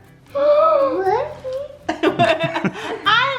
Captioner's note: laugh; gasps